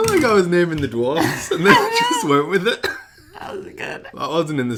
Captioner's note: laughs